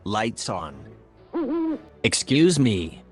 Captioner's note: owl hoots